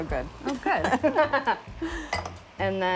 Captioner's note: laughter